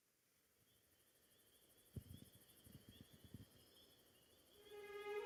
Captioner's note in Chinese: 蟋蟀叫